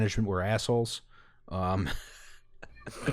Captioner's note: laughter